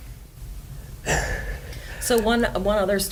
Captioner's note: chuckles